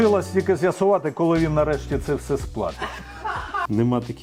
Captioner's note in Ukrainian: сміх